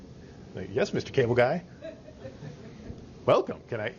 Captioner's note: students laughing